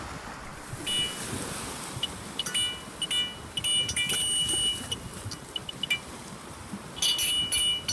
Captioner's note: high pitch chime, sample sounds of waves